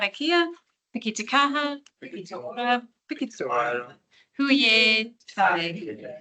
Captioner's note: speaking in te reo Māori